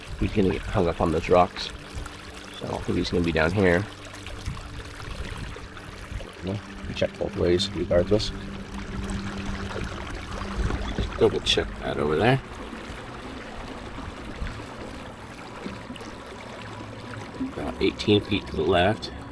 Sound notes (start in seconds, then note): 4.3 water lapping gently; 13.0 suspenseful music continues; 13.0 water lapping gently